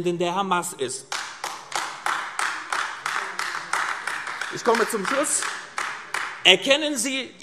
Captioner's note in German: Beifall AfD